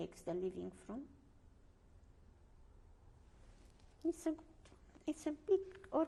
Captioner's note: pauses for 3 seconds